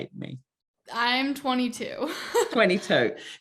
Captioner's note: laughing